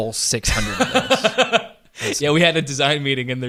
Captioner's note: laughing